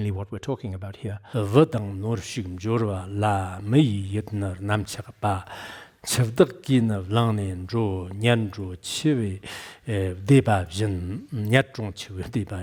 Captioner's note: giving oral transmission in Tibetan